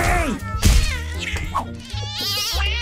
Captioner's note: yowls